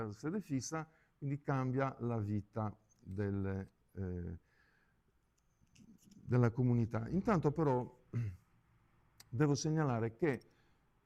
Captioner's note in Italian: schiarire la voce